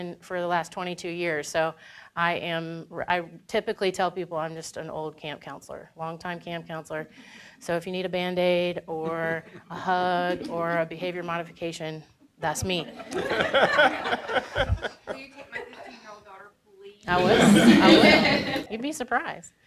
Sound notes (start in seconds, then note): 13.0 audience chuckling; 17.1 audience laughing